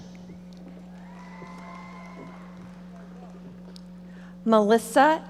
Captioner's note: audience applauding